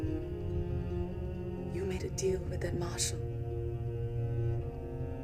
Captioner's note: thunder Rumbles